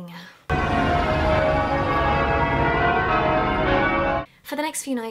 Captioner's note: bells ring loudly